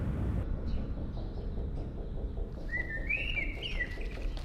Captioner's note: ominous music; birds chirping